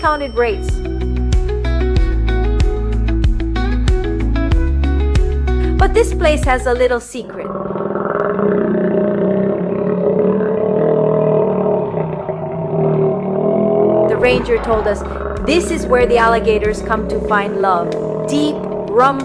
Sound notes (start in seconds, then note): 7.4 roar